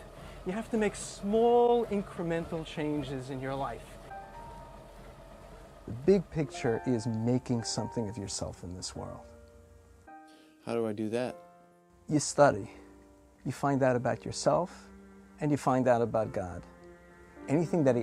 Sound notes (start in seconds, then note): none